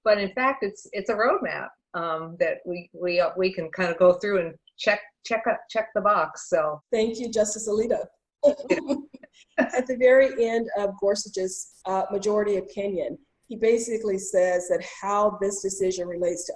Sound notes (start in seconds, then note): 8.4 laughter